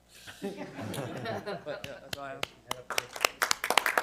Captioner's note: audience laughs; audience applauding